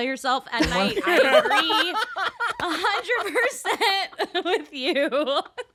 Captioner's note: all laughing; Mae giggling